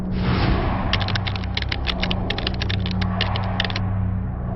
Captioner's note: keys tapping